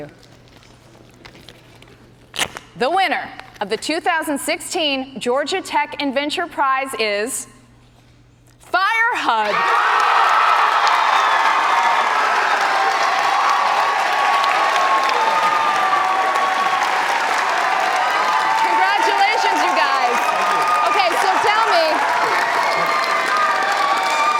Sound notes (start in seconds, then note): 5.0 cheers and applause